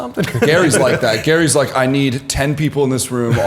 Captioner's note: laughter